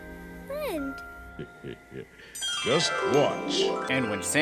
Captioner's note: chuckles